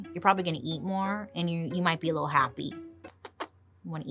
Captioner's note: puckering lips